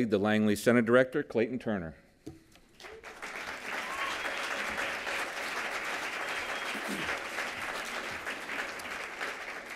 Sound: applause

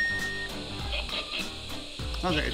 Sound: buzzer

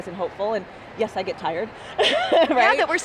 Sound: laughs

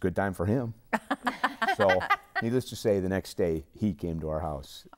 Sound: laughing

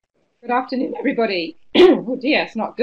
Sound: cough

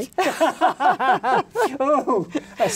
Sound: both laughing

